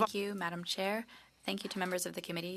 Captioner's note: speaking French